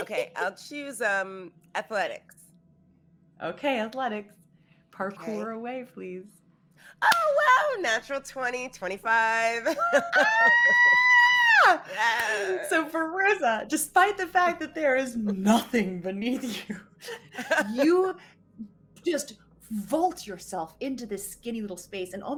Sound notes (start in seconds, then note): 10.1 narrator screams